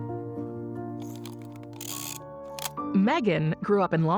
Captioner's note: shutter clicks